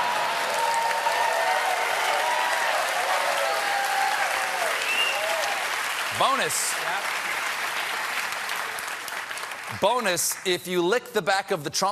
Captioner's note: cheers and applause